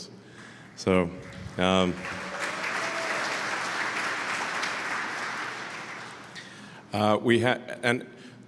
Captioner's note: Applause; 掌声